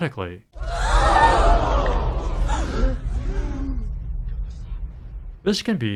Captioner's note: crowd gasping